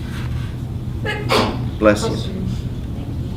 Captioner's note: sneezing